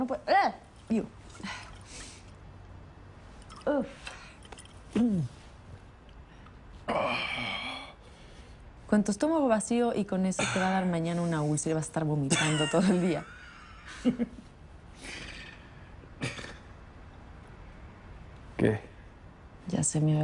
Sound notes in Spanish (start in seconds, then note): 12.4 Risas